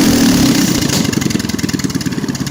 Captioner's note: awesome Engine Sounds